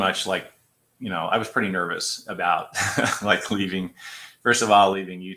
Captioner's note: laughter